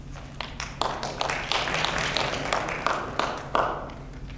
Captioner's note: audience claps